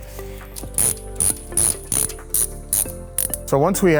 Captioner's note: ratcheting